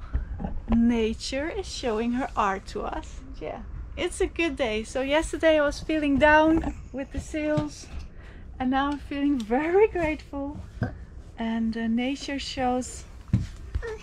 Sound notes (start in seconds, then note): none